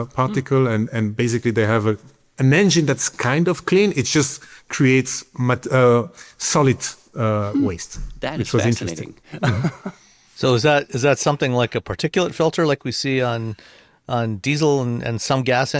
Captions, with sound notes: particle, and basically they have an engine that's kind of clean. It just creates -solid waste- -That is fascinating ... which was interesting. Yeah. [chuckles] So is that something like a particulate filter like we see on diesel and some gas